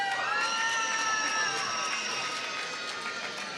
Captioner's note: applause